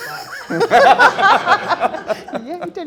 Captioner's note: all laughing